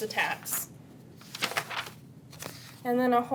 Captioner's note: papers rustle